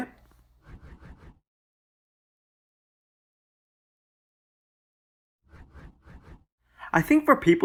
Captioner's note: transition swooshes